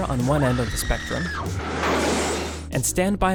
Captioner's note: banging